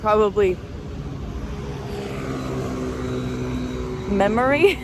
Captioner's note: vehicles pass; chuckles